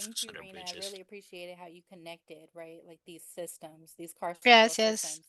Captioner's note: hablando inglés